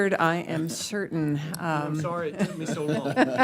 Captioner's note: laughter